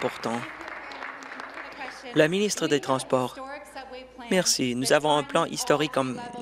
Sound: applause

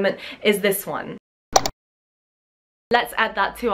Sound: mouse click

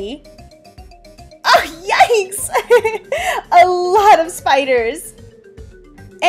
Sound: laughs

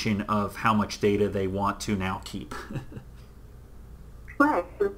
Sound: chuckles

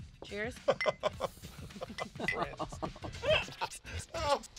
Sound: laughing

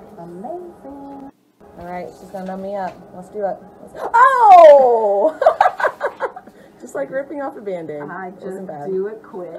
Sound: laughs

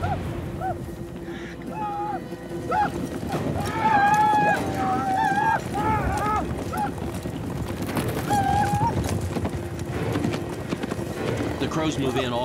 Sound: crows yelling

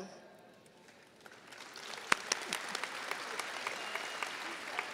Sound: audience applauding

